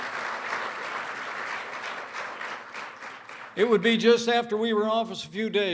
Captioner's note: applause